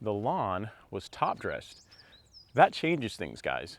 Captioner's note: birds chirping